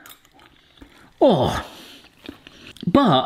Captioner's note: groaning